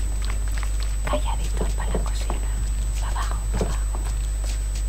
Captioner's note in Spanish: susurrando